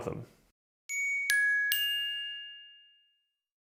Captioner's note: chimes